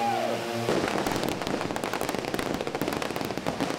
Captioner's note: gun shots